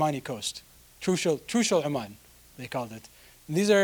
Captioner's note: speaking in foreign language